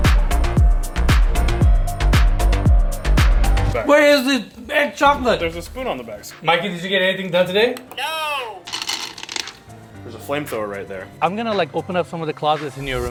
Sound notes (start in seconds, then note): 8.4 candies clinking